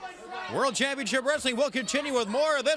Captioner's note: crowd chatter